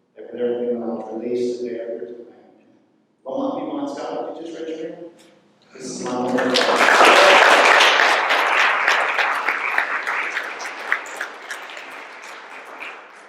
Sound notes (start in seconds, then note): 5.8 applause